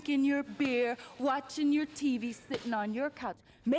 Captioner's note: none